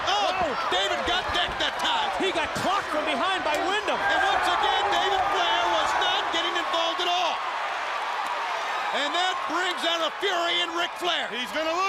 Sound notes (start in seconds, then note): 0.0 crowd chatter; 9.6 crowd cheering